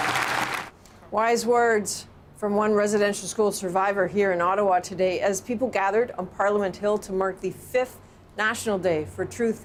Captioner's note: applause